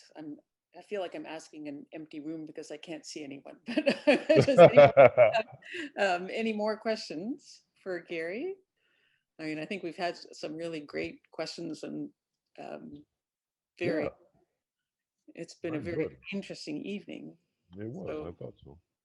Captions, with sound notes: I feel like I'm asking an empty room, because I can't see anyone. (both laughing) Any more questions for Gary? I mean, I think we've had some really great questions. It's been a very interesting evening. - I was, I thought so.